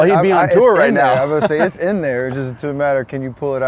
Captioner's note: laughs